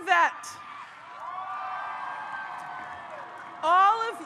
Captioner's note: audience cheers